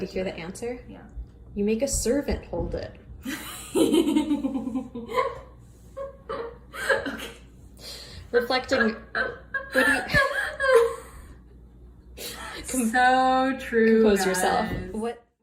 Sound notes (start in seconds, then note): 3.2 laughter